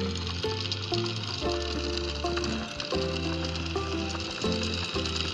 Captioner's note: sound of windlass paying out chain